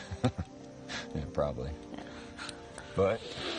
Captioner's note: laughs